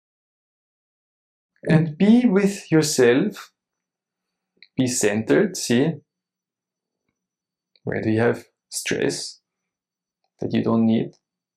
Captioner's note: silence